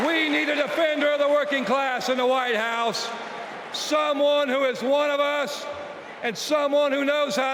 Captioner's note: cheers and applause